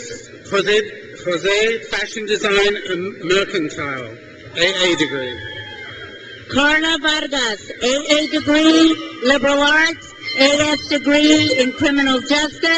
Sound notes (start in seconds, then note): 4.5 crowd cheers